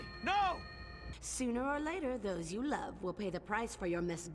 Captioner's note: shriek